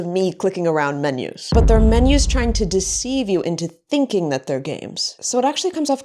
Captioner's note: boom